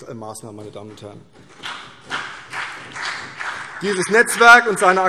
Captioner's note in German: Vereinzelter Beifall CDU und BÜNDNIS 90/DIE GRÜNEN